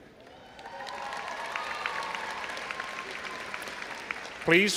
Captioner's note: all applauding and cheering